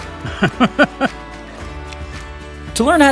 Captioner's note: laughs; chuckles